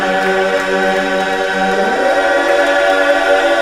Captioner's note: laughter